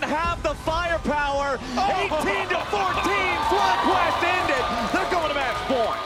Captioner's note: laughs